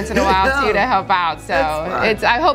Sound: laughing

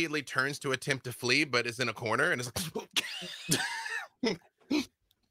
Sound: laughing

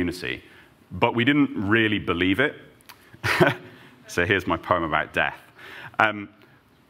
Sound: chuckles

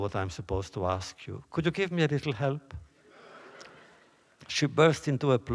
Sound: laughter

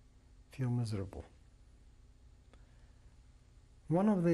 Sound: pauses for 3 seconds

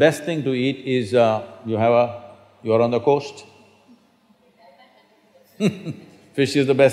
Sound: laughter

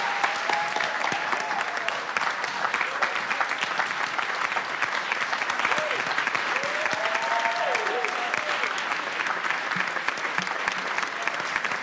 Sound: applause

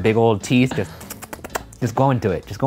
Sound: imitates beaver sound

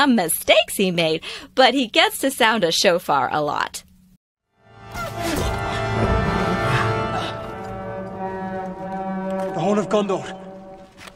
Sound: The horn of Gondor blowing

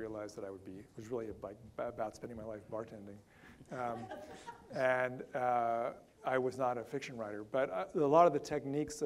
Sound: audience laughter

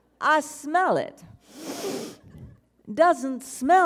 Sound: inhales

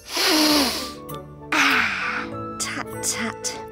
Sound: sniffs

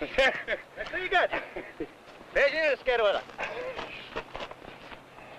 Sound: speaking in foreign language

